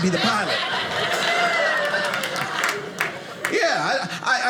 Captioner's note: audience laughing